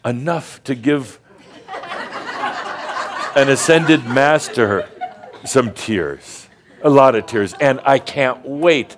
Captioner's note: some chuckles